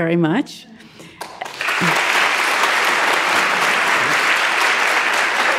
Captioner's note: audience applauding